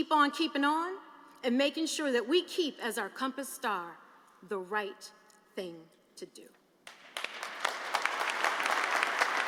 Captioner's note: applause